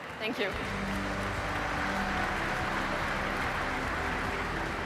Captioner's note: audience applauding